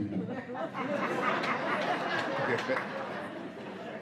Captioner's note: laughter